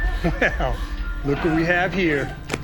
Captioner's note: chuckles